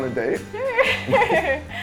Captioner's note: laughs